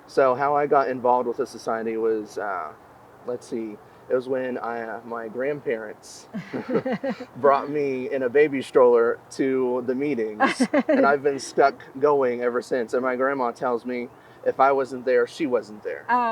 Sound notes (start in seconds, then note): 6.4 both chuckling; 10.3 interviewer laughing